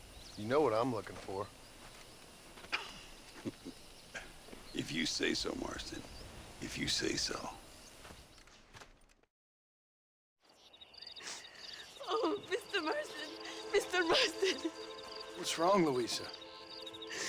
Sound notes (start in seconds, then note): 3.3 laugh; 11.2 sobbing